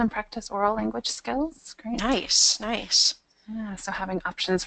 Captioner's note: voiceover